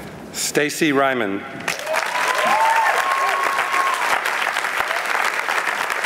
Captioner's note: applause